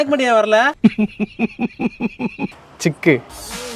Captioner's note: laughing in jest